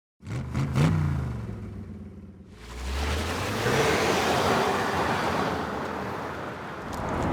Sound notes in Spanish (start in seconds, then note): 0.2 Vrooms